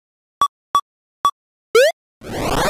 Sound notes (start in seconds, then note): 1.7 video game beeping